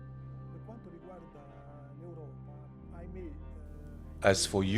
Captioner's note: speaking in foreign language